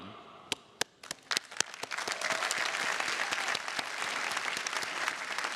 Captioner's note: audience applauding